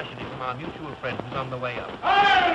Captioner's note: shouting